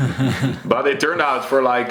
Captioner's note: chuckles; chuckling